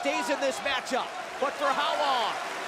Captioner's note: crowd cheering